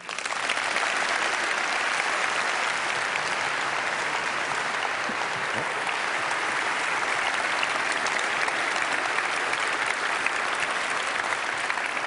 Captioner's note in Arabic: تصفيق